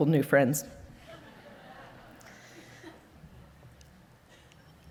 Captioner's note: audience laughing